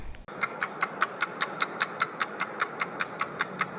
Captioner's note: clock ticking